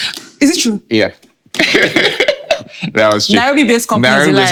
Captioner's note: laughing